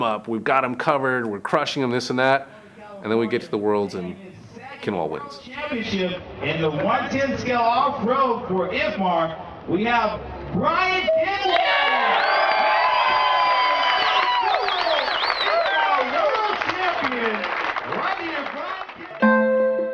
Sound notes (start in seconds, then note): 10.9 crowd cheers; 19.2 soft music